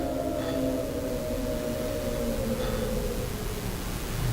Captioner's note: wind howls violently